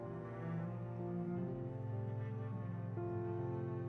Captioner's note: none